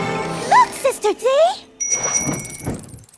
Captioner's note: bike bell dings